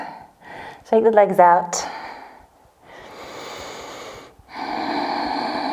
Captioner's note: inhales and exhales